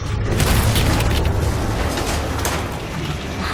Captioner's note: thudding